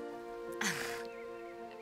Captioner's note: chuckles